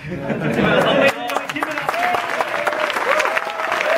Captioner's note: applauding